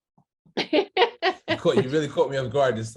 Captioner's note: laughing